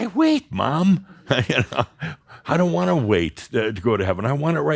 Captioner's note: Adamus chuckles